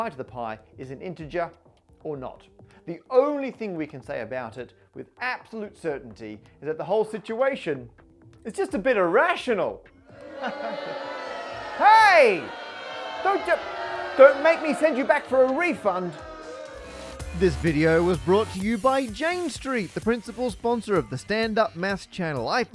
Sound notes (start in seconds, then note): 10.1 crowd boos